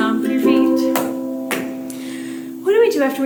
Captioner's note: stomp, Stomp